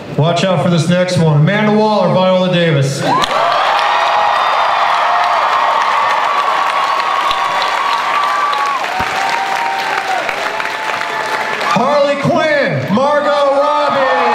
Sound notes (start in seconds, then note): 3.1 audience cheering and applause